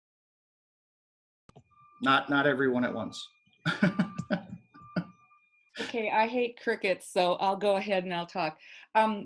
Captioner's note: laughing